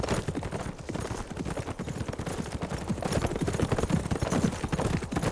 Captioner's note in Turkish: At nalı sesi